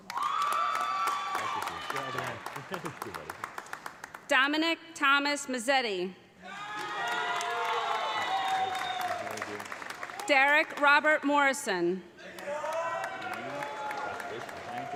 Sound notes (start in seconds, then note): 0.0 audience cheering; 0.0 audience applauding; 6.4 audience cheering; 6.6 audience applauding; 12.3 audience applauding; 12.3 audience cheering